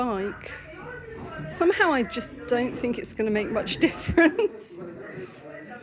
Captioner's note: laughing